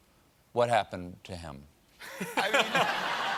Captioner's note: laughter